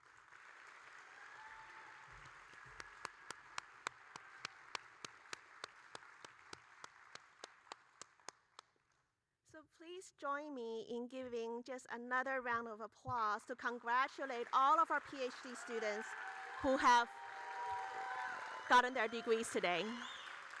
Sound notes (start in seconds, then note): 0.7 audience cheering; 3.0 applauding